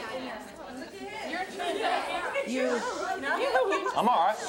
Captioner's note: angry chatter